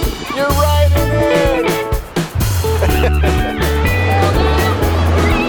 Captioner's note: upbeat music; laughs